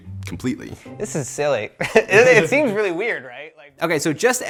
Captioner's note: laughs